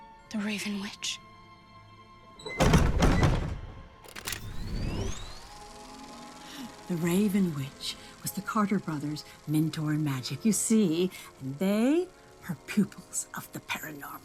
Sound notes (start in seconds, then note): 2.5 thudding; 4.3 whirring